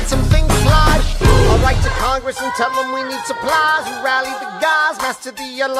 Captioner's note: boom!